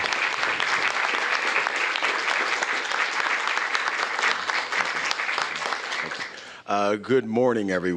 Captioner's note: applause